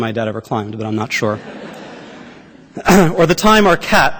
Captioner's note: laughter